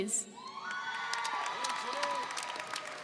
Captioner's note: audience applauding and cheering